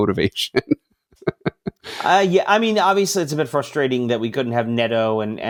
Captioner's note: laughs